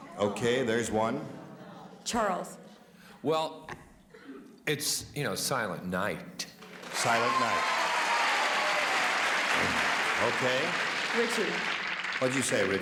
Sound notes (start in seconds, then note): 8.4 applauding